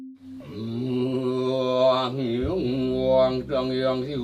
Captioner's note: speaking in Sanskrit